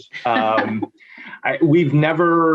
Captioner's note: laughs